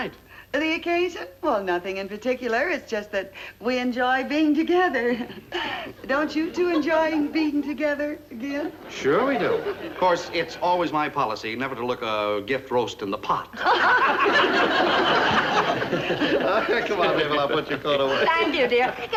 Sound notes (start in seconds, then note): 6.4 nervous chuckling; 13.6 loud laughter